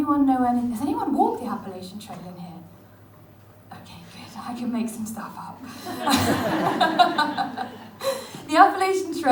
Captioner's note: audience laughs